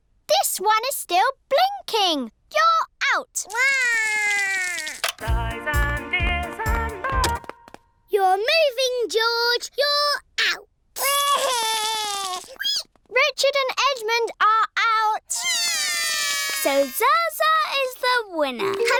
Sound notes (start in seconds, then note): 3.5 cries; 7.6 music stops; 11.0 cries; 15.5 both cry